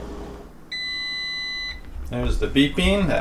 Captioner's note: beeping sound